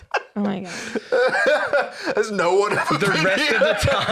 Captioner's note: laughing